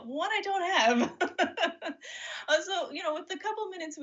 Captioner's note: laughs